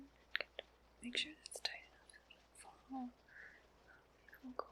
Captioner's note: whispers